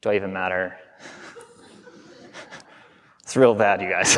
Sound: audience laughing

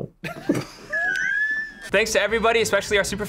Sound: both laugh

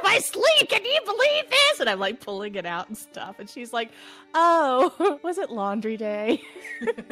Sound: laughter

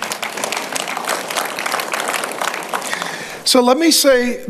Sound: congregation clapping

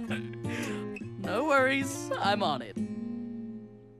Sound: chuckling

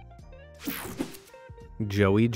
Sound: upbeat music continues; graphics whooshing

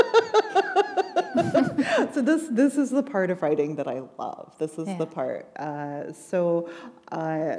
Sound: laughter

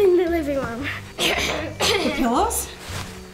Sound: coughs

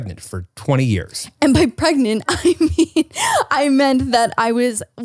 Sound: laughs

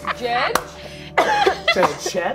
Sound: all laughing

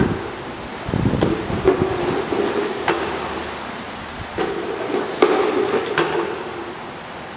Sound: broom sweeping

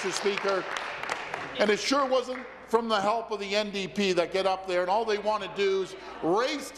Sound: applause

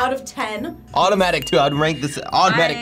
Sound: bell dinging

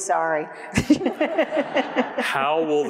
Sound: laughs; everyone laughs

